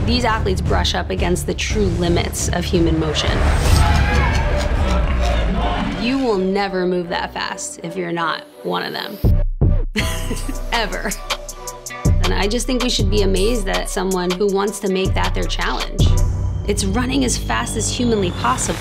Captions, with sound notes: These athletes brush up against the true limits of human motion. You will never move that fast if you're not one of them, [laughs] ever. And I just think we should be amazed at someone who wants to make that their challenge. It's running as fast as humanly possible.